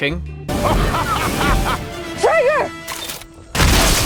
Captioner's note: Traegar laughs